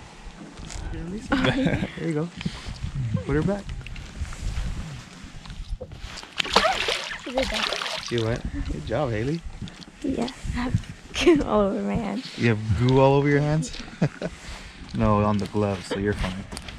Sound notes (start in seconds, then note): 6.2 fish splashing